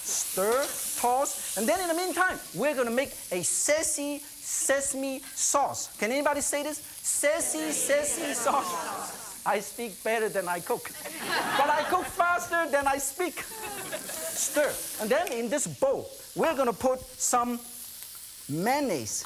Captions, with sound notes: stir, toss. And then in the meantime, we're gonna make a saucy, sesame sauce. Can anybody say this? Saucy sesame sauce. I speak better than I cook, (laughter) but I cook faster than I speak. (laughter) Stir. And then in this bowl, we're gonna put some mayonnaise.